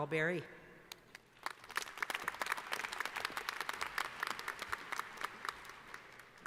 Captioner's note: applause